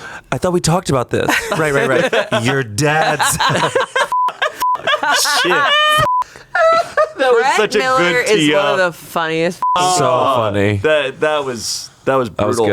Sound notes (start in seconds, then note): 6.0 beep